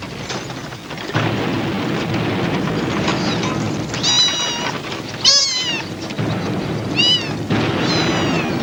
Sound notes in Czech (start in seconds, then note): 2.9 tiché mňoukání